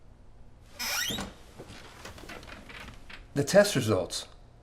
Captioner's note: chair creaks